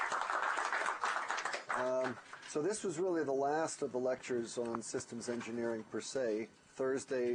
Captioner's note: applause